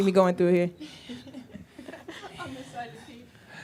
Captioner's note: laughs